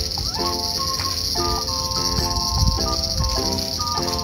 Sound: laughs

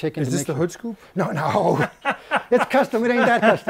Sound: laughs

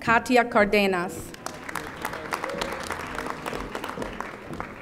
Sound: audience applauding

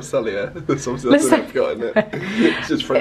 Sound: laughs

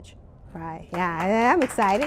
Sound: applause

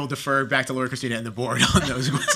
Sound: laughter

